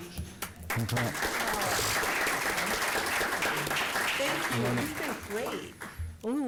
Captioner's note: applause